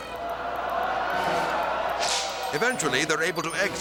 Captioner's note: audience laughing